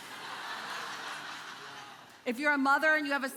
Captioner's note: congregation laughing